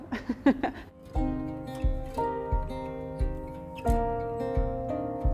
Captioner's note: laughing; gentle upbeat music